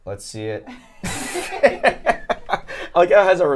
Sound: all laugh

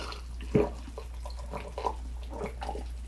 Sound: gulp gulp

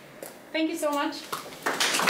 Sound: applause

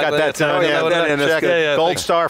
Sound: laughs

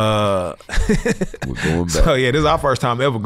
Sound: laughs

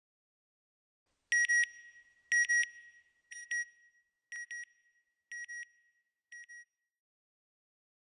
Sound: beeps

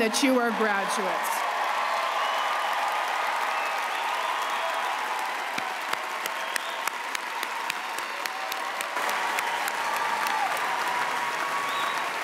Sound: applause and cheering

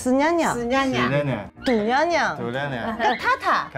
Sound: laughing

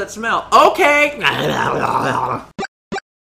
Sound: imitating Pikachu

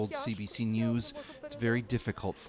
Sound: speaking foreign language

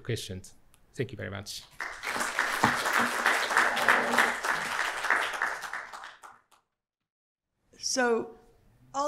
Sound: applause

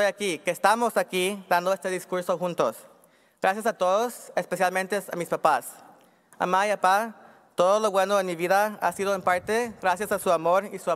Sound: speaking spanish

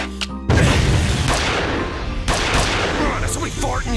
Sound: smoke grenade goes off; gunshots

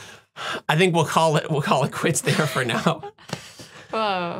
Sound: laughing

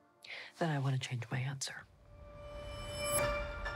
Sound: inhales sharply

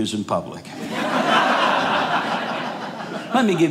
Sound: audience laughing

